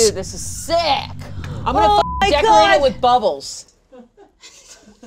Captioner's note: beep